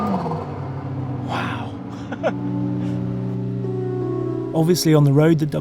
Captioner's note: chuckles